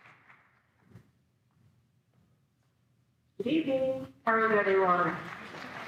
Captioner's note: audience applauds